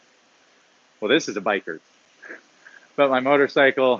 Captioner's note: laughs